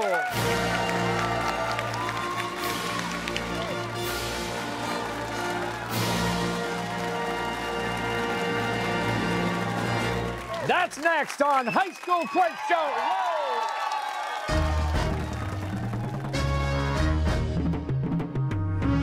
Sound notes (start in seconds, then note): 0.2 fanfare; 4.6 cheers and applause